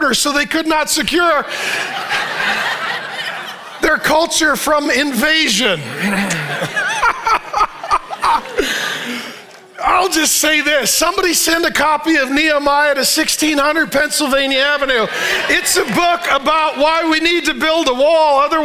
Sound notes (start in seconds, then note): 1.6 congregation laughing; 6.0 congregation and pastor laughing